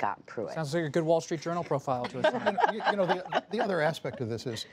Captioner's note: laughter